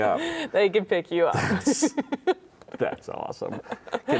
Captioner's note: laughs